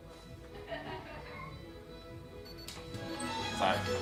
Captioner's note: laughing; irish music playing